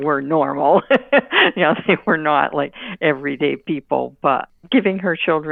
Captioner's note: laughing